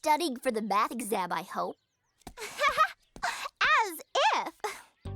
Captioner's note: laughs